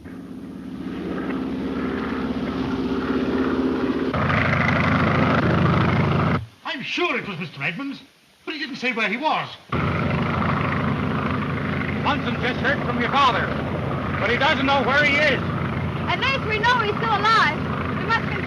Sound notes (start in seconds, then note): 0.0 engine droning